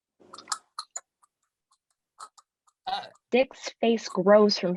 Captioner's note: thing sucking